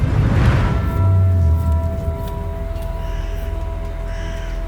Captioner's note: bell tolls; crows caw